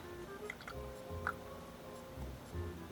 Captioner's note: clicks tongue